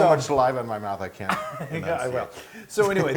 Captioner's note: laugh